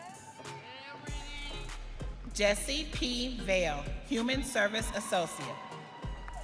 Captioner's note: audience cheering